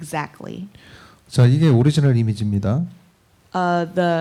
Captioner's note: speaking korean